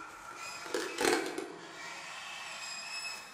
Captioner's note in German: Unbehaglich-schleifendes Geräusch